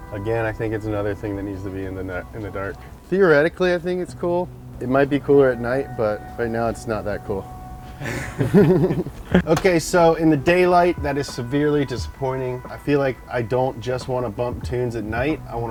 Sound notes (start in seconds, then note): 0.0 sad music; 7.9 both laugh